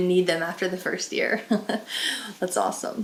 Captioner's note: chuckles